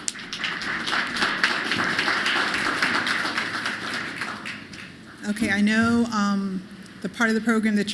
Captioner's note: applause